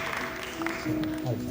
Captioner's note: applause